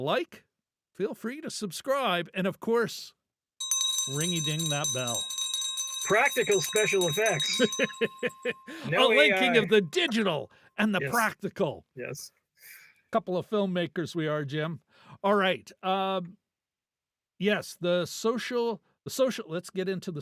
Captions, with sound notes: like, feel free to subscribe, and of course, ring-a-ding that bell. Practical special effects. (laughing) A linking of the digital and the practical. Yes. Couple of filmmakers we are, Jim. All right, yes, the social, let's get into